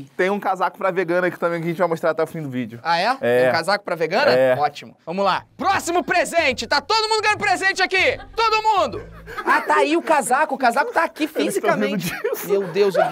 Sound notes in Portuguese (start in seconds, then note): 7.8 risadas